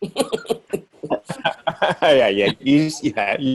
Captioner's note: group laughing